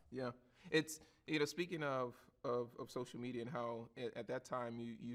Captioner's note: none